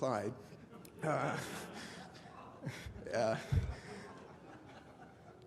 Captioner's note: laughter